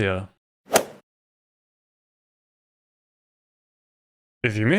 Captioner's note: golf ball hit sound